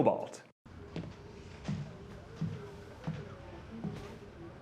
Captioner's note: footsteps tapping